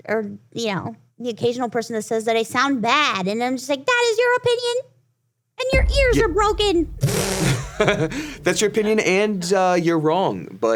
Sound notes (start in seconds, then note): 7.0 computerized generated raspberry; 7.4 laughs